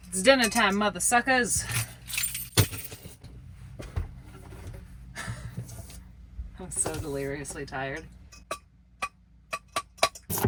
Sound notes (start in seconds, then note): 1.6 keys jingle; 5.3 laughs; 8.5 tapping